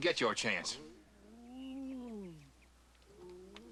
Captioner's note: Clyde groaning softly; groaning